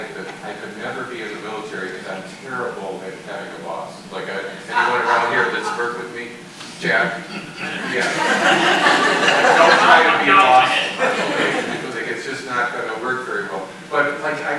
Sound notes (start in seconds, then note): 11.0 people laughing